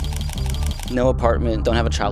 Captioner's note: camera shutter clicks